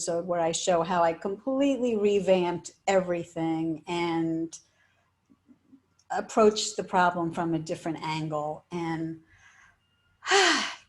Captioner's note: sigh